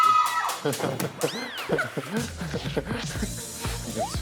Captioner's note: hahaha